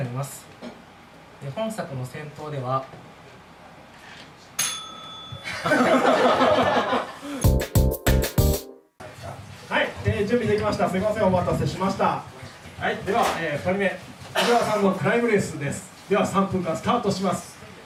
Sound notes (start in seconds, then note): 4.6 bell rings